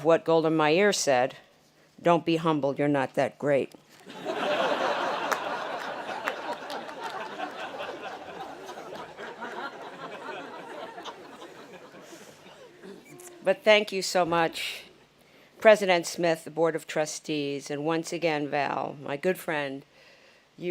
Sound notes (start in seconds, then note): 4.0 audience laughing